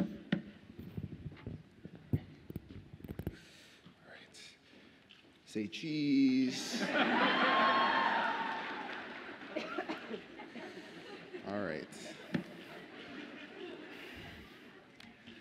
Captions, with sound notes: - All right. Say "cheese." (audience laughs and cheers) All right. (audience laughs)